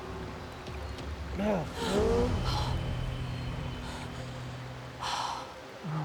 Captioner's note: pierre grunts; marie sighs with relief